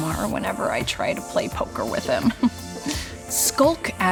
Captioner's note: chuckles